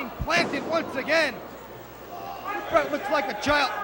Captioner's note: crowd chatter